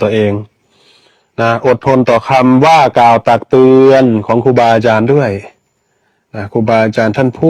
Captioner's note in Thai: เสียงสูดหายใจ